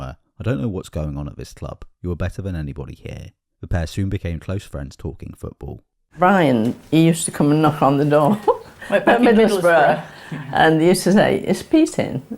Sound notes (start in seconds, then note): 8.0 laughs